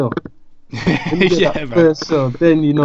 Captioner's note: laughs